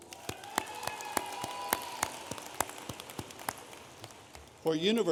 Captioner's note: audience applauding